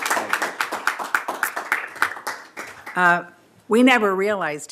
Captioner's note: applause